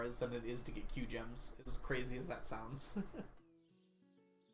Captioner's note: laughs